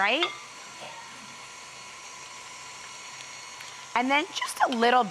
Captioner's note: mixer whizzing